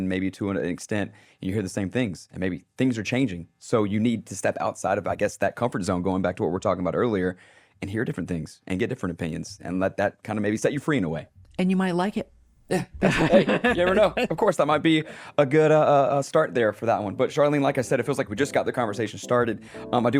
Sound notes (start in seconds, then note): 12.7 laughing; 16.4 mellow music begins